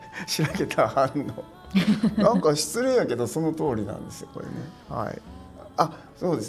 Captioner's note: laughs